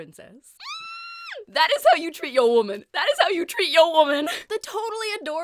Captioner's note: squeal